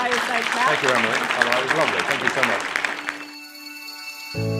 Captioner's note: audience clapping